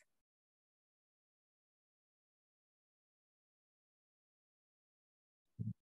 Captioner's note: silence